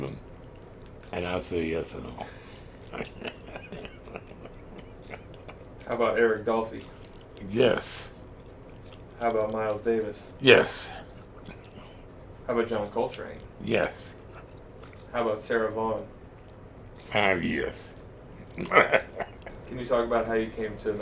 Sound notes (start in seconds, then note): 1.9 laughs; 18.4 laughs